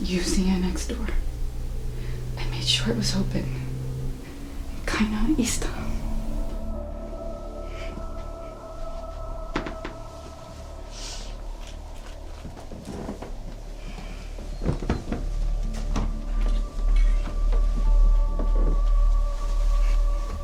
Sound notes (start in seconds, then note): 5.0 woman speaks foreign language; 9.6 object creaking